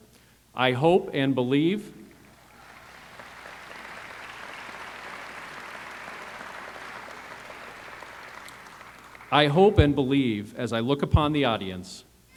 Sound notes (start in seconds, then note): 2.1 applause